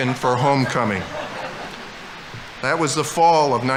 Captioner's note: audience laughing